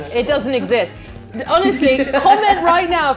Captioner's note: laughs